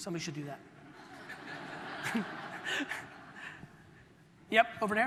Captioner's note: audience laughter